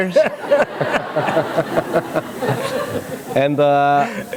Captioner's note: laughter